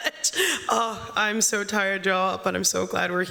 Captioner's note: laughter